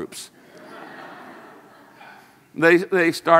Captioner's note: audience laughs